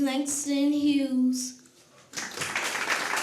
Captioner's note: applause